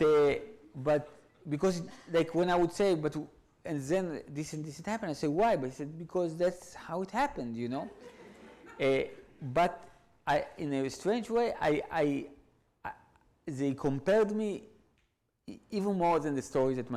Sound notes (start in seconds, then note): 7.8 audience laughs